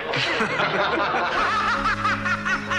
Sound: both laughing

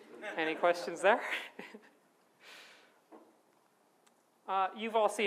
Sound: audience laughs

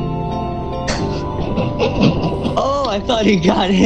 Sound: someone snorting and laughing

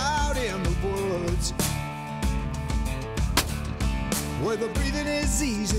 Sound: gunshot

